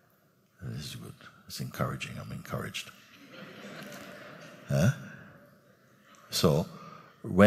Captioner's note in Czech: smích